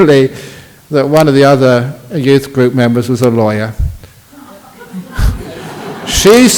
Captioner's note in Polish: Laughs